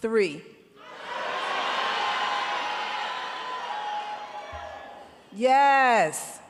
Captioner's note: crowd shouting